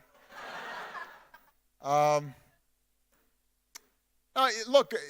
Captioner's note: audience laughing